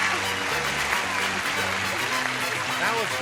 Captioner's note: applause